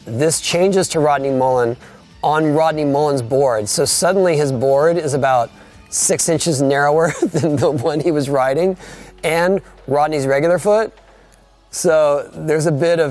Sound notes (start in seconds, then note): 7.0 laughing